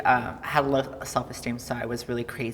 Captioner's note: none